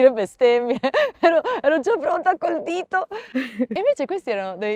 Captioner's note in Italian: risate